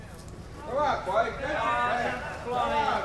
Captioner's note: shouting